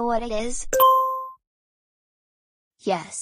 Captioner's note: ding